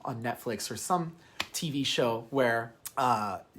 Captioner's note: hand slapping